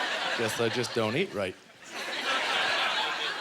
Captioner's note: audience laughter